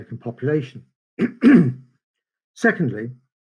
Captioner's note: clears throat